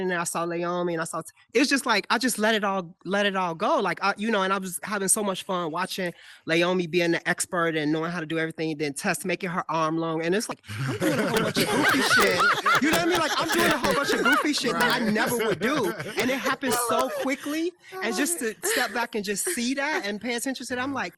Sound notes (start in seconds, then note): 11.5 all laughing